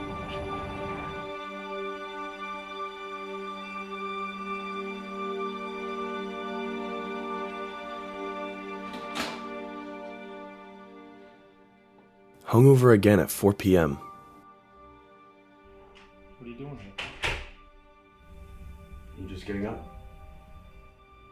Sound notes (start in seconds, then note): 0.2 melancholy music continues; 8.8 door slams shut